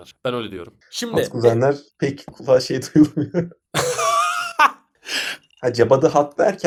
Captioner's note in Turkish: kahkaha